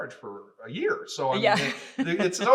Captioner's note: laughing